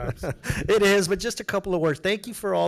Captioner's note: laughs